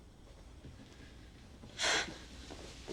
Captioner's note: sighs